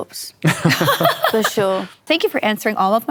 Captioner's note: laughter